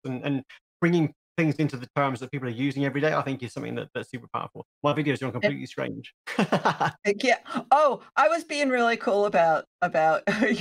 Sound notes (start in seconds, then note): 6.2 he laughs